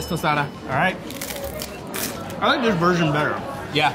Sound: bell dings; crunching

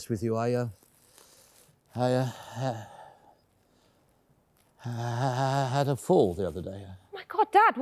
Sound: stammering

